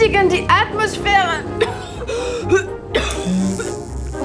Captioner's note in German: Husten